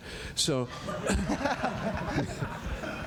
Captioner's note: laughter